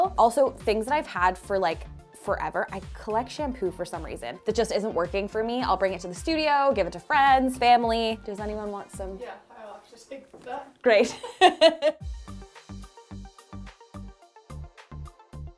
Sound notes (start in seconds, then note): 11.0 laughs; 12.5 soft upbeat music